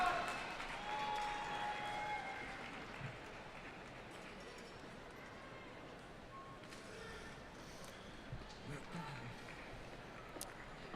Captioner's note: applause